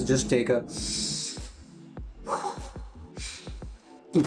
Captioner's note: sigh